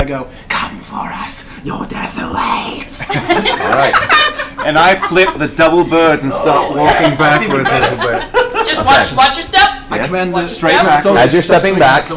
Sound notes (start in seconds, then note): 0.2 whispers; 3.0 all laugh